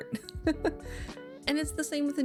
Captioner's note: laughs